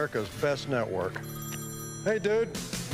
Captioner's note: phone rings